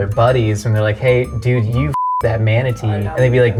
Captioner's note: beeps